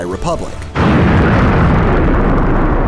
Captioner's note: explodes